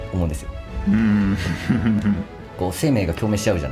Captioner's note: laughs